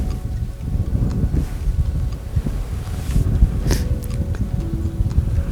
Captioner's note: light wind